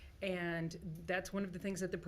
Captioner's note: none